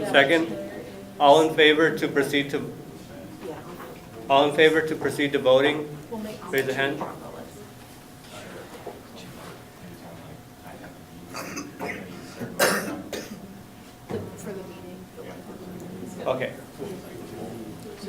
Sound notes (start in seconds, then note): 9.8 talking amongst audience